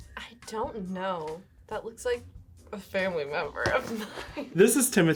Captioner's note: laughs